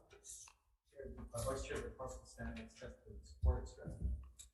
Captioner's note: faintly speaking